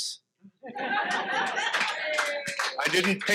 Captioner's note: audience laughs